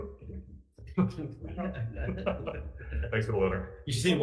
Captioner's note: both laughing